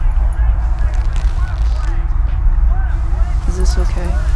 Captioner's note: belt unbuckling; zipper unzipping